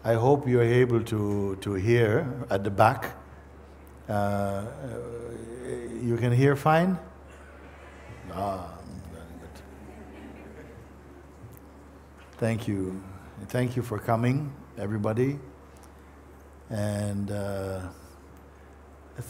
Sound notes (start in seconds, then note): 7.3 voices in audience